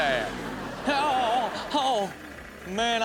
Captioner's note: man groans